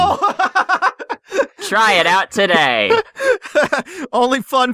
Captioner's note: laughs